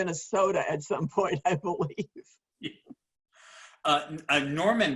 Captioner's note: laughing